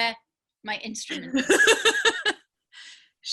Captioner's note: laughing